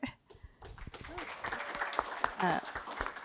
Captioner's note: applause